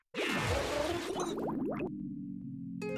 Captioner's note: bubbling